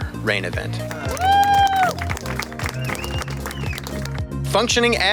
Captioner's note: people cheering